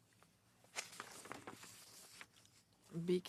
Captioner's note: speaking French